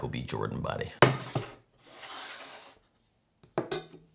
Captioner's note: boarding sliding